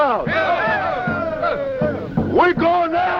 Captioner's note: cheering